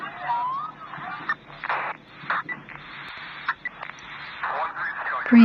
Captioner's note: police radio crackling, underlying